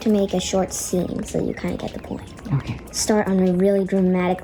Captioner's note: female voice, "OK"